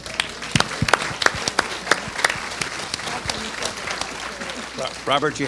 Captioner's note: applause